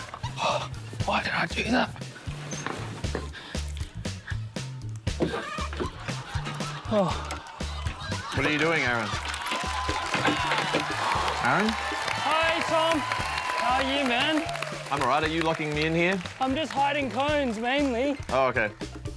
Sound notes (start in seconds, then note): 5.1 door creaks; 9.3 cheering and applause